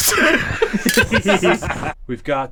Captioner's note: both laugh